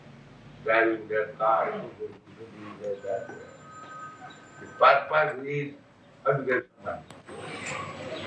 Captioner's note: makes noise of cars